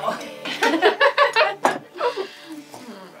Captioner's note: all giggling; dramatic music